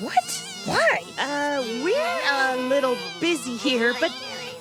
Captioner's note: buzzing and derp panics